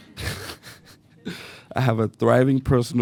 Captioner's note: laughter